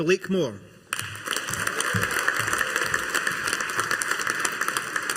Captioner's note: audience applauding